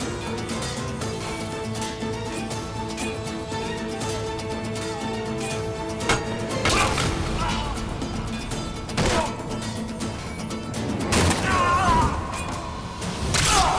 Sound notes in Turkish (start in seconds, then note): 0.2 Müzik - Gerilim; 5.9 Dövüşme sesleri